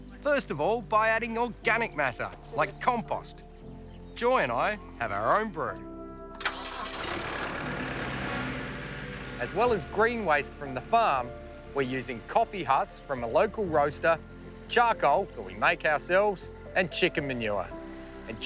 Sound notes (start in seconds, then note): 6.4 engine starts